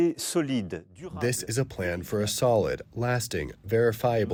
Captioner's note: through translator